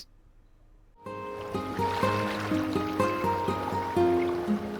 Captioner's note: gentle music; water splashing